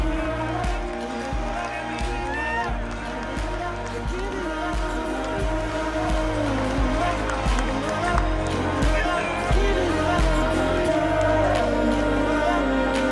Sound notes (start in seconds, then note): 0.4 applause; 6.0 crowd cheering after a home run